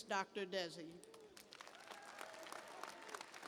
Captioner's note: applause